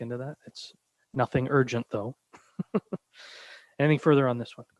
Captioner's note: chuckles